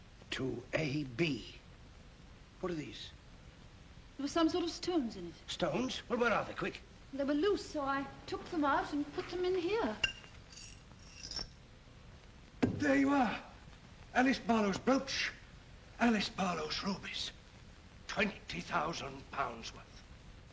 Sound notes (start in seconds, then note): 11.0 stones jingle